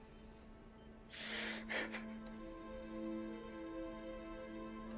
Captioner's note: Darnell cries